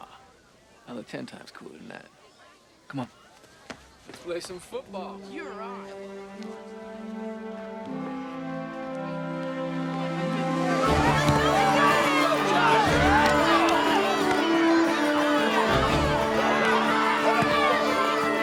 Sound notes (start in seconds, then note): 10.1 yelling and shouting